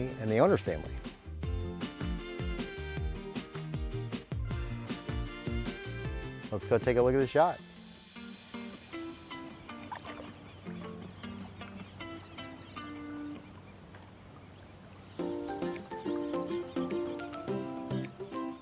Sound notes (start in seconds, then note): 2.1 soft music; 8.8 water rippling softly; 15.0 light cheery music